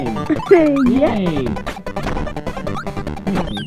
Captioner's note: giggles